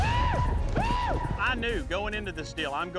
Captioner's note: thud, screaming